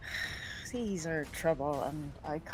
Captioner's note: sighs